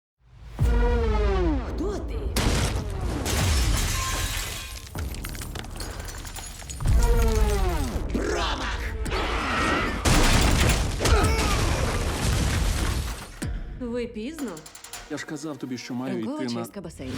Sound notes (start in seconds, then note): 4.2 bones cracking; 8.9 man yells; 9.2 shrieks; 11.1 man grunts